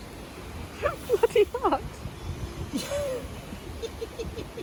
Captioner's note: giggles in pain